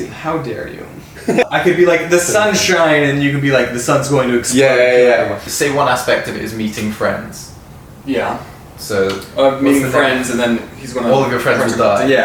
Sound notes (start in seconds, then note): 1.1 laughs